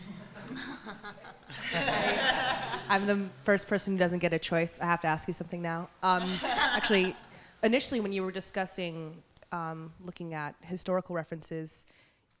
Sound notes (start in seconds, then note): 0.0 laughter; 3.1 voiceover